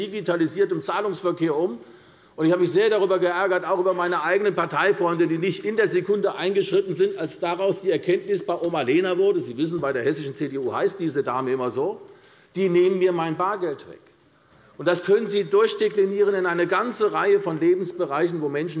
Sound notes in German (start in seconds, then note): none